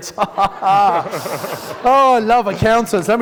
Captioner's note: laughing